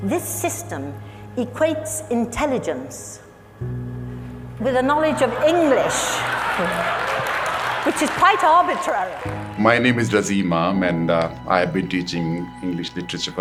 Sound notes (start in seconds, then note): 4.9 crowd laughing and cheering